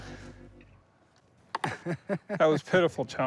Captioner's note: laughs